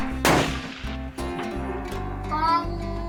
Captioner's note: gun fires